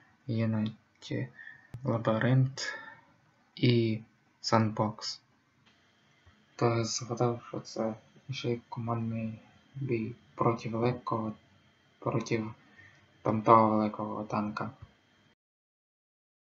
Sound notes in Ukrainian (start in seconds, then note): none